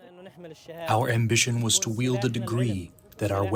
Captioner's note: through translator